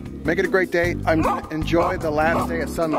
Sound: dogs barking

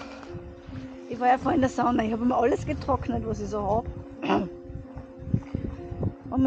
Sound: clears throat

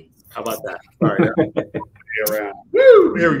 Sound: laughs

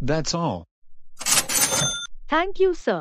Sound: ka-ching

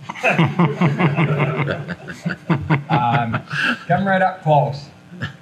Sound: everyone laughs

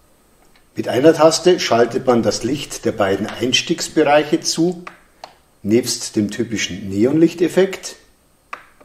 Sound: fluorescent tube effect

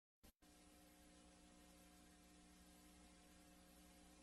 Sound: VHS static

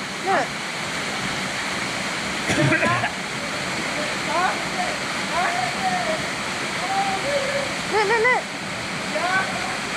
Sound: gushing water

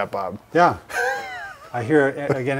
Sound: laughs

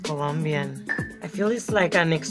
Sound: wood block clanks

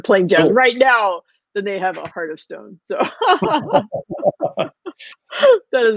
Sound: laughing

